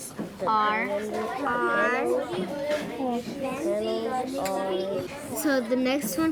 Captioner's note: students writing